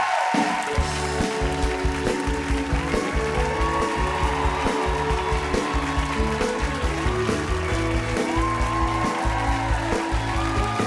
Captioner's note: cheers and applause